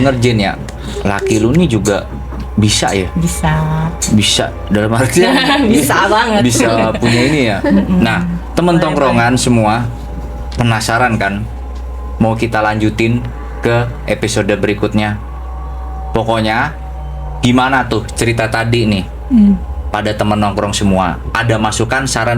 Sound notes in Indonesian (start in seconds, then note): 6.2 tertawa